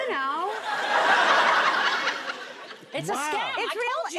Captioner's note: audience laughs